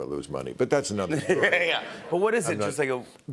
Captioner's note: laughter